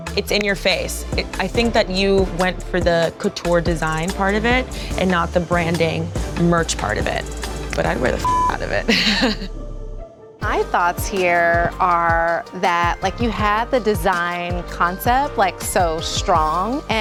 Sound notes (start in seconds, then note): 8.2 beep